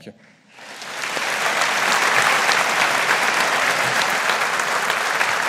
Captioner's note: audience applauding